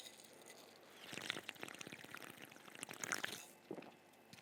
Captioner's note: slurping